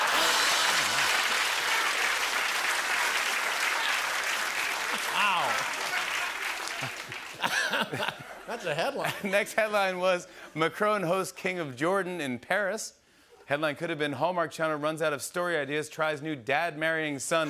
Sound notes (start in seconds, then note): 0.1 laughter; 2.0 applause